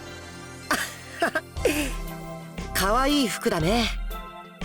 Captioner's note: laugh